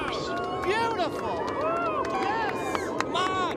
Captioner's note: engineers cheering